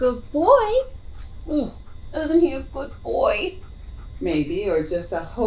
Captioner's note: tuts